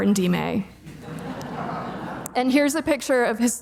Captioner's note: audience laughing